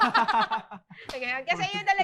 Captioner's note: laugh